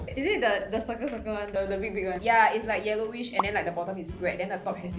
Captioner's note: none